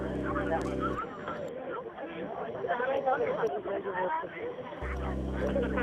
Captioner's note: tigrinya spoken audio